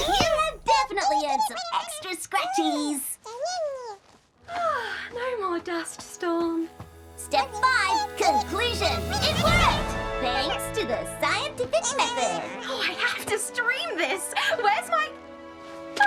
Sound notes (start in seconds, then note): 4.6 sigh of relief